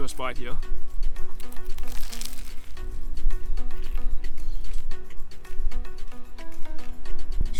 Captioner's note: all of the crunches